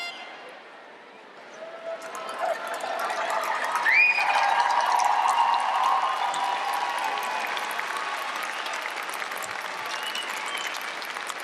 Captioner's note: applause